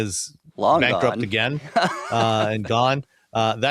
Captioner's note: laughs